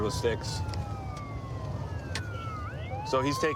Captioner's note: sirens wailing